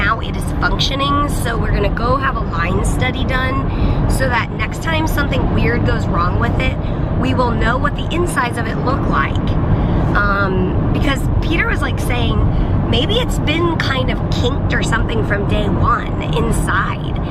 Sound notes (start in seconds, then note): none